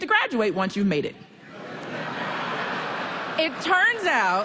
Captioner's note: laughter